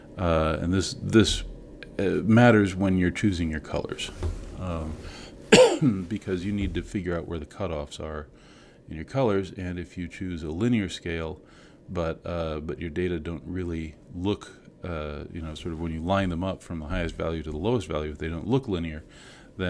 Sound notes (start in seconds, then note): 5.5 cough